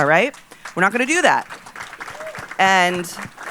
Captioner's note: audience applauding